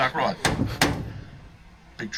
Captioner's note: loud bang